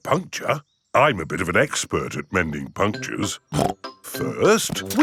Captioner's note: snorts